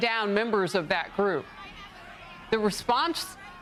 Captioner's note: shouting and screaming